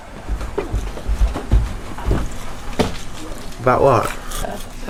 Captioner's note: electric toothbrush